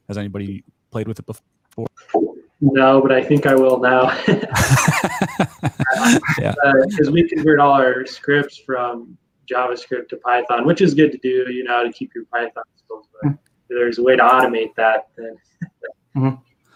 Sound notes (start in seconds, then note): 4.0 laughter